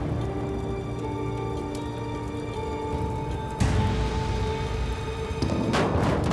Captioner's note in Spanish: crujir de las llamas